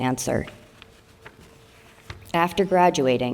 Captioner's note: paper rustling